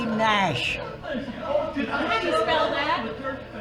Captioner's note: crowd chattering